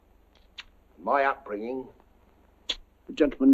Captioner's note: sucking through teeth